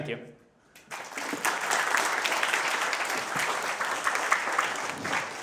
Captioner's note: audience clapping